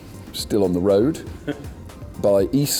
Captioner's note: laughs